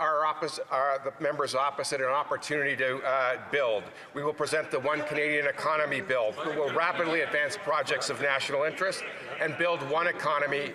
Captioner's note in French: voix de l'interprète